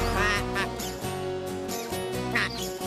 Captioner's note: duck Quacking